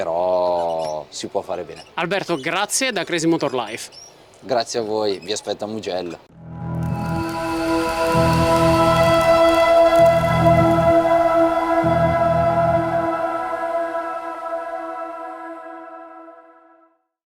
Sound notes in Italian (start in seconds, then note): 6.8 Applauso